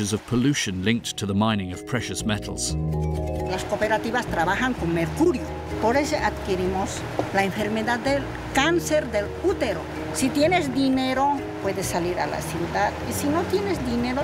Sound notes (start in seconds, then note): 3.8 speaking in foreign language